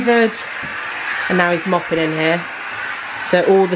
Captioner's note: mop whooshing